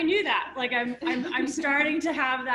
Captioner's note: laughter